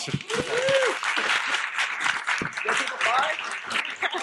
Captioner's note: audience clapping